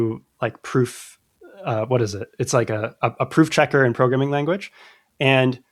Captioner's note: uh